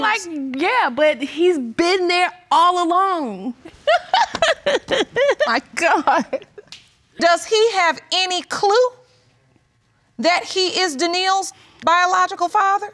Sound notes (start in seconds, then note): 3.7 laughs